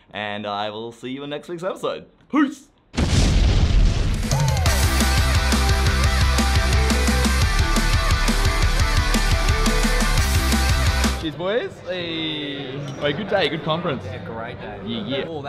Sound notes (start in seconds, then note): 2.9 explosion; 4.2 upbeat music